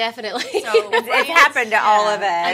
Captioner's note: chuckling; laughing